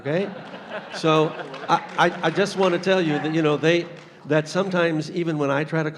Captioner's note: laughter